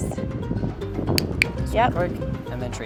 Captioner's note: click